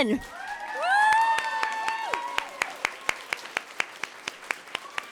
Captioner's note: audience clapping and cheering